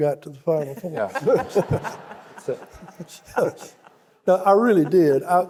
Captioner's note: audience laughing